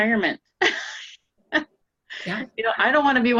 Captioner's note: laughing